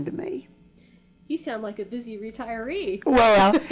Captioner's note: laughs